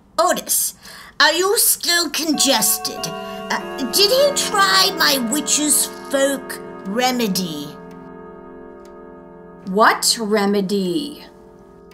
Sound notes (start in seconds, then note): 2.4 bells ringing